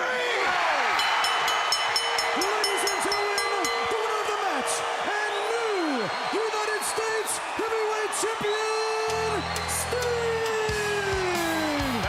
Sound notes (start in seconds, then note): 0.2 crowd cheering; 0.9 bell ringing